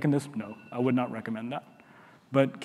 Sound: alarm buzzing

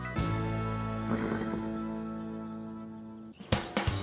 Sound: horse bluffs

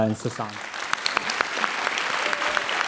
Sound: applause

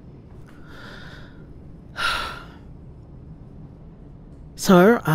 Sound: sigh

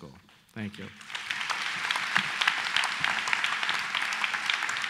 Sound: applause

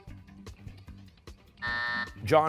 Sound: buzzer

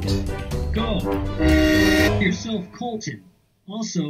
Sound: horn

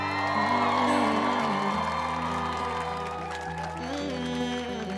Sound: crowd cheering; humming melody

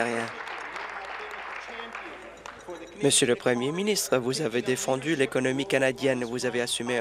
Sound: applause

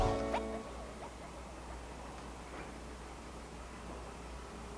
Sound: quiet motor humming

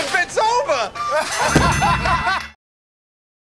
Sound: ding!; laughter and applause

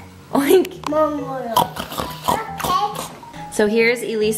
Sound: oinking

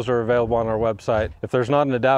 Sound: image whooshing

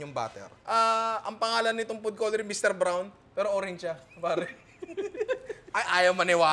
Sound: laughter

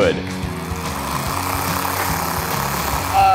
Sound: Theragun whirring

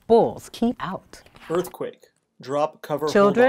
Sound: voiceover

